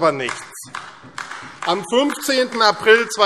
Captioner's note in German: Beifall AfD